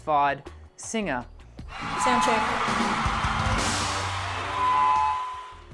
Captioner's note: crowd cheering